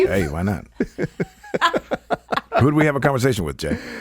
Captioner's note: all laughing